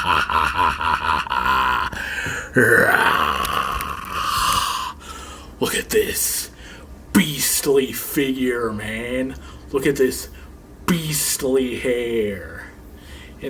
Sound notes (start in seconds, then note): 0.0 laughs; 2.6 roars